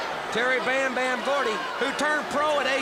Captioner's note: crowd cheering